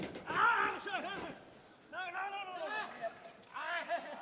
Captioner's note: Tozawa shouting